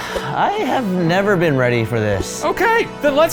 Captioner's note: sighs